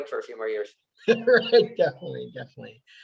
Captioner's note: laughing